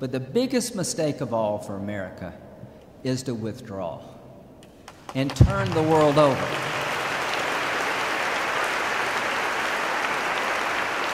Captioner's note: applause